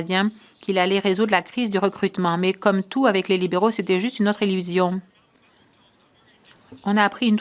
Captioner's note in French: voix de l'interprète